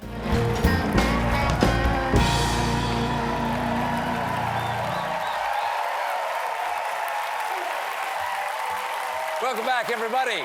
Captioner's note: cheers and applause